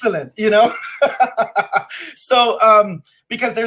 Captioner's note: laughs